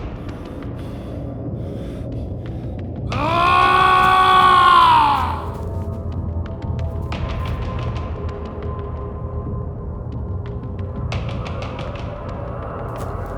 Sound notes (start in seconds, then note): 3.6 yelling; 7.5 suspenseful music